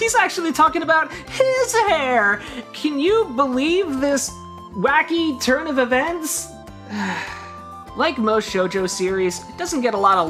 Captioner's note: sigh